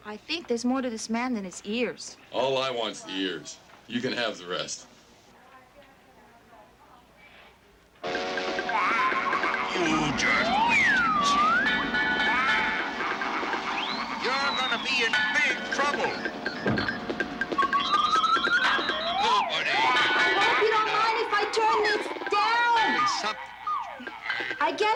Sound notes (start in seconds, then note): 8.3 machine whirring; 8.3 train whistle blowing